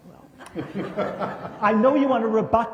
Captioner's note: laughter